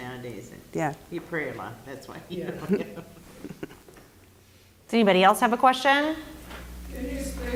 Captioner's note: laugh